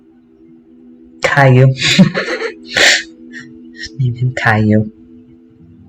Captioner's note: laughter